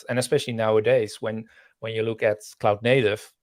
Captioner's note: none